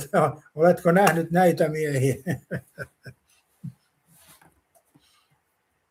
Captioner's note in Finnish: naurua